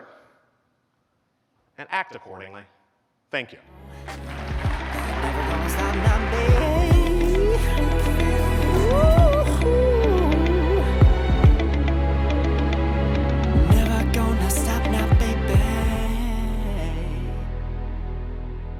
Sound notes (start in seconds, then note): 4.0 applause